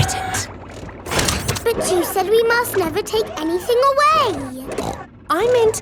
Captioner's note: snorts